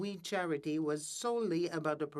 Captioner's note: speaking French